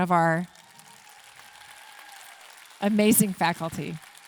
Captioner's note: audience clapping and cheering